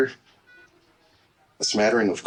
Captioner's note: heart monitor